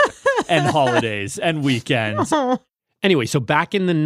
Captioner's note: laughs